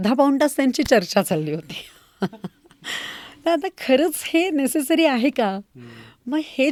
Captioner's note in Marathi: हास्य